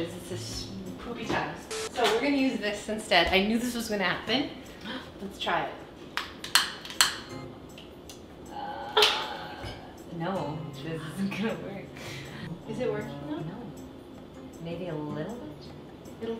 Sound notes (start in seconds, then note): 6.5 lighter sounds